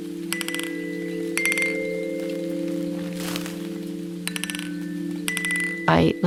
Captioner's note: rain tapping; tranquil music